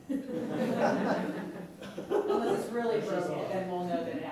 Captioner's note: laughter